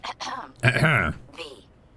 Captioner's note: clears throat